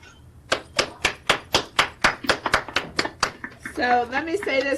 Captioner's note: clapping